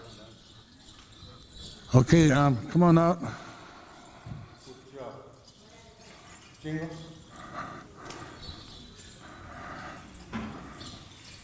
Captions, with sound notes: Okay, come on out. (participants chatting) (beads clinking)